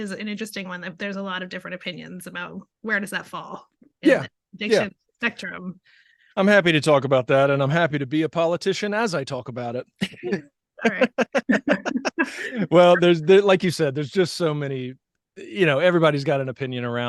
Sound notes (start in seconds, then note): 10.8 laughing